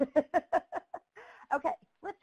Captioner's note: laughing